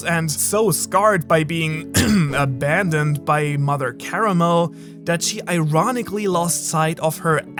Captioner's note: cough cough